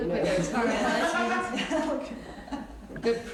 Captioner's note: laughter